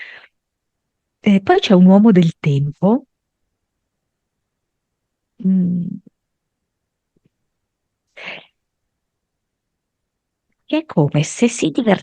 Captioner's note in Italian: sbuffare